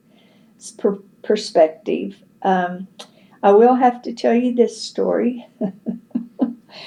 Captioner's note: laughs